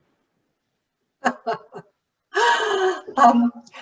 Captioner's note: laughing